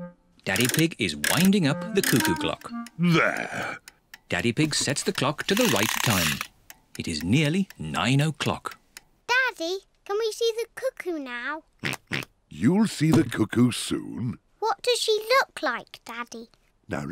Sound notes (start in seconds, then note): 11.9 oinks